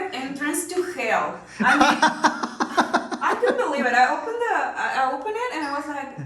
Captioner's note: laughing